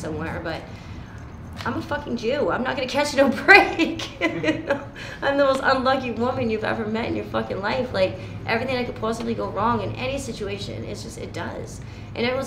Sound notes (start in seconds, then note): 3.7 laughing